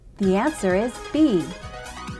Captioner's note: female announcer speaking